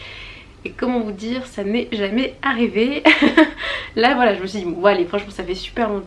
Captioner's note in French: rires